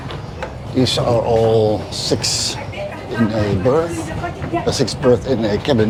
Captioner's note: foreign language